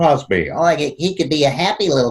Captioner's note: in high-pitched, nasal tone